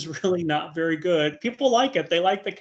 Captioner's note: laughing